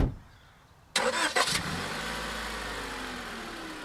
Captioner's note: car revs